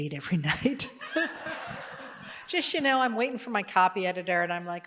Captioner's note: laughter